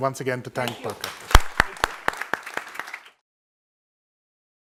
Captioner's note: audience applauding